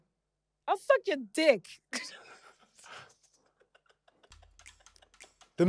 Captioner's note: laughs